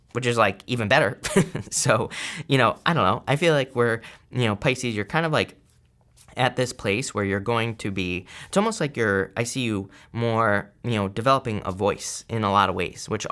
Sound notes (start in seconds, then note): 1.2 chuckling